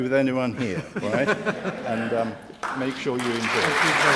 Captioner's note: laugh